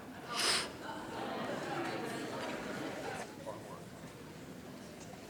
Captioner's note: chatter